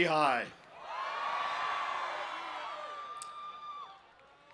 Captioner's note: cheering